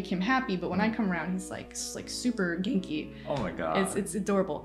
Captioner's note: cheerful